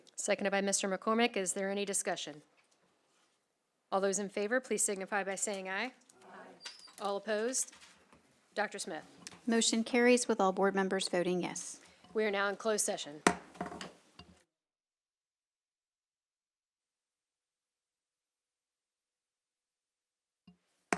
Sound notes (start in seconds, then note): 13.3 gavel hitting dais; 13.8 silence; 20.7 gavel hitting dais